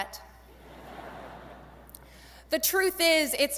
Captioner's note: audience laughing